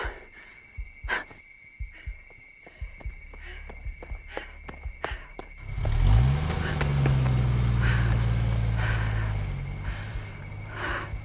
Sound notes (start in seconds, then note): 1.6 Tina panting; 5.6 engine rumbles to life; 8.5 Tina panting